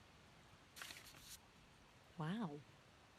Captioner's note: envelope rustling